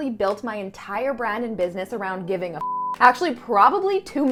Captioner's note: beep